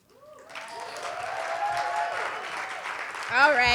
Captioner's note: audience clapping